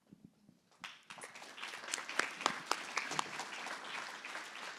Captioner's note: applause